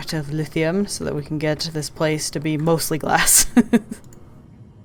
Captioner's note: laughs